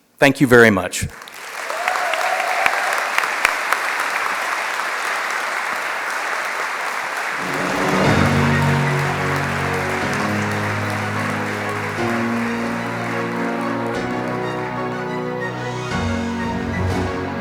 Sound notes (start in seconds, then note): 5.3 applause